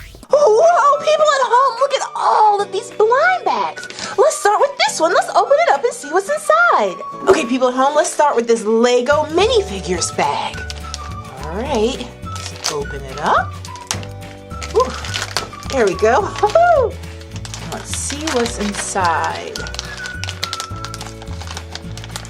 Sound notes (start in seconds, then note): 11.5 whistling music; 17.0 laughs